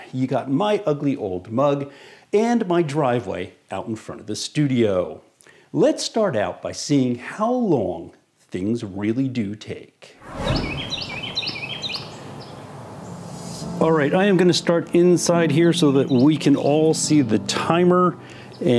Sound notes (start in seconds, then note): 10.3 birds chirping; 10.6 upbeat music